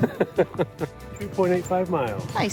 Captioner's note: laughing